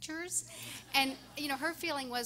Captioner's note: everyone laughing